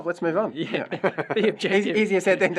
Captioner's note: laugh